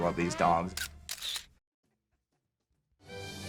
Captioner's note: camera clicks; playful majestic music